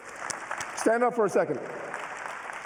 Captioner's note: applause